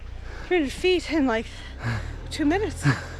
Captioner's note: laughs